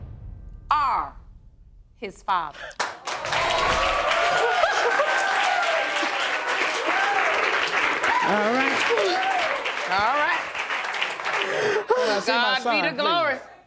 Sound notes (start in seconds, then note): 1.5 audience applauding; 3.9 audience cheering; 4.2 sobbing